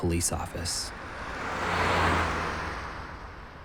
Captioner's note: car rumbles